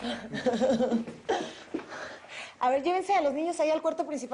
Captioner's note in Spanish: Risas